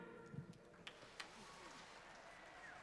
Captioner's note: applause